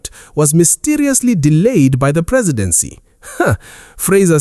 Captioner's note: laughs dryly